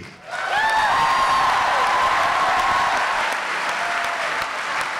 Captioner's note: applause and cheering